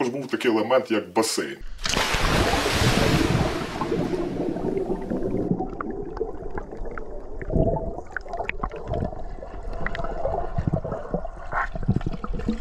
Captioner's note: diving into water sounds